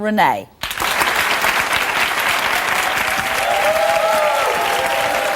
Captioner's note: audience applause